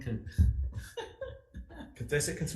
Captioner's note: laughing